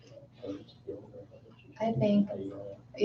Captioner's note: mumbling